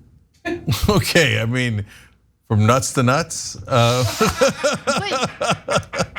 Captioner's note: laugh